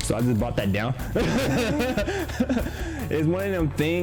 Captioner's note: laughs